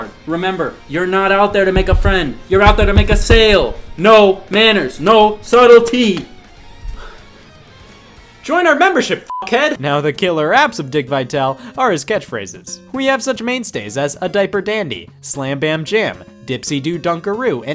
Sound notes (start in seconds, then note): 9.3 beep